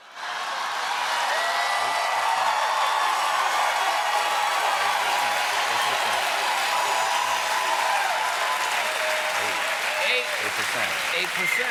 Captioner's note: cheers and applause